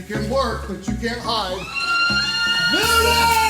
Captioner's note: screaming